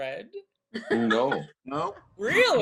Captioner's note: laughing